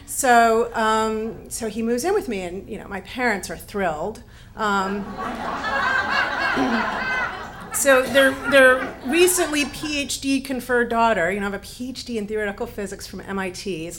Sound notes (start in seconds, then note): 4.9 audience laughs